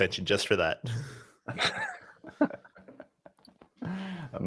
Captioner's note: laughter